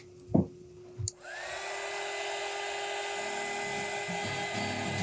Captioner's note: vacuum whirring